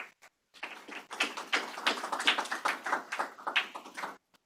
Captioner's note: applause